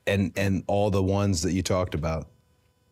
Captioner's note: none